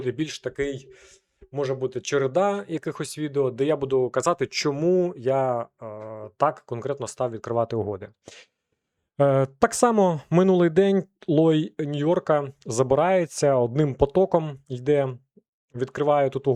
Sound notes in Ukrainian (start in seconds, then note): 8.2 сопіння